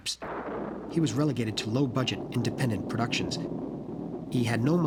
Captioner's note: thunderclap